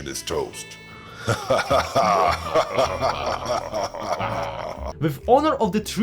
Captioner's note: evil laughter